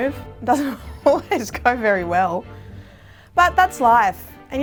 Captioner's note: laughs